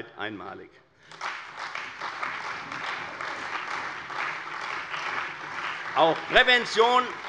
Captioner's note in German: Beifall bei der CDU und dem BÜNDNIS 90/DIE GRÜNEN